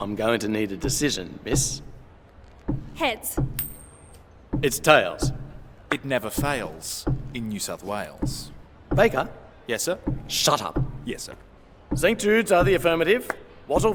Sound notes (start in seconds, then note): 3.6 coin flips